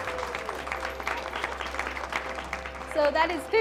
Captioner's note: audience applause